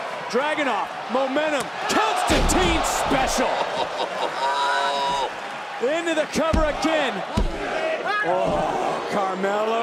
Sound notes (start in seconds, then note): 3.4 laugh